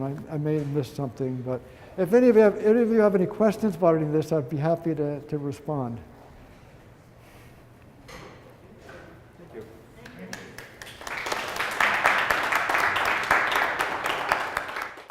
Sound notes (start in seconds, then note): 10.0 applause